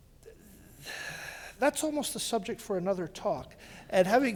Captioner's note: sighs